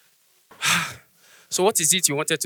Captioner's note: sigh